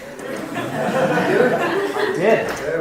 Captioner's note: laughing